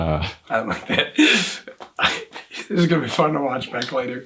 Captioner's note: laughs